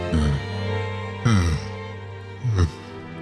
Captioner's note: sigh